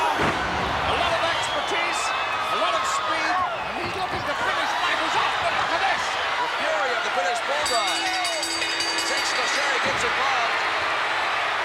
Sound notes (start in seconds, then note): 0.1 body thudding; 3.4 footsteps plodding; 7.3 bell ringing; 10.6 body thudding